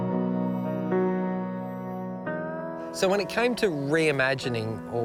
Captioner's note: insects buzz